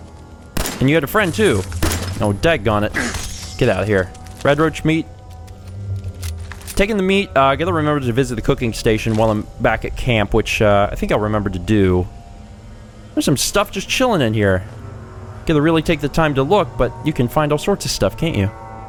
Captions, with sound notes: *BLAM!* And you had a friend, too! *BLAM!* Oh, dagonit! Get outta here! 'Radroach Meat.' Taking the meat, ah... gotta remember to visit the cooking station while I'm back at camp, which ah...I think I'll remember to do. There's some stuff just chilling in here! Gotta really take the time to look, but you can find all sorts of stuff, can't you?